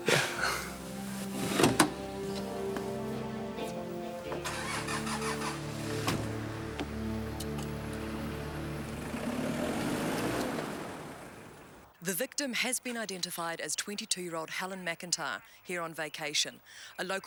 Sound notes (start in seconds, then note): 0.0 John laughs; 1.4 car door clicks; 4.3 car engine rumbles; 9.5 car engine revving